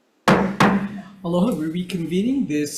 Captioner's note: gavel clanking